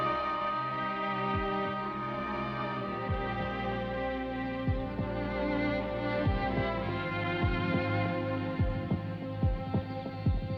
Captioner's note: dramatic sentimental music; sound of heartbeat; rapid heartbeat sound